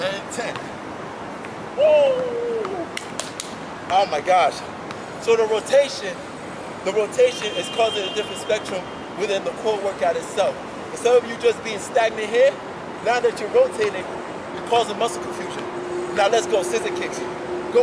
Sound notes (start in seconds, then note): 2.9 hands smacking